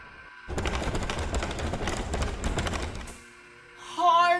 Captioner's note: door clattering